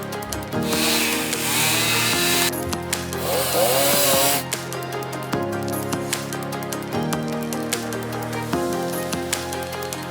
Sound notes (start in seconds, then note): 0.6 saw roaring; 2.1 dramatic music continues